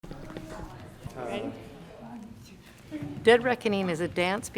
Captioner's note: dancers chattering